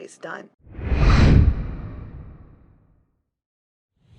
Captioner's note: air whooshing